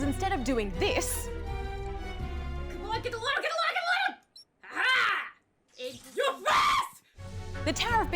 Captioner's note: screams